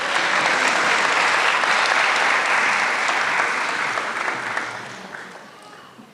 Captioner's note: applause